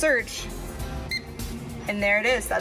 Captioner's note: mechanical beep